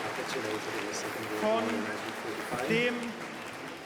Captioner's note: applause